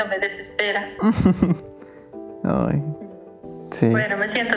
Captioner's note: laughs